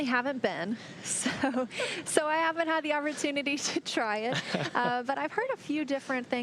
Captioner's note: laughter